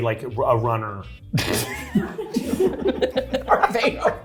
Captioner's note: cast laughing